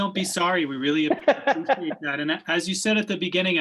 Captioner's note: primal laughs